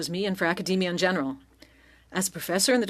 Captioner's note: speaking French